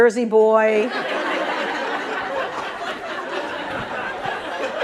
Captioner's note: laughter